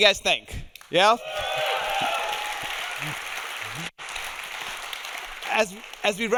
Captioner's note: audience cheering; audience applauding